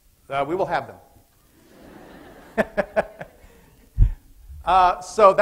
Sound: laughter

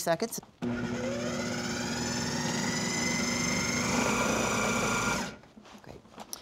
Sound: whirring

